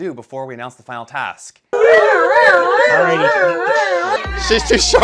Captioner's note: whambulance noises